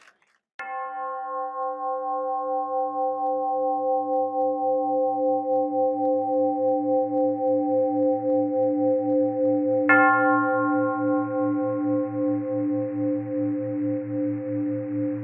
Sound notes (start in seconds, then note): 1.2 bell gongs several times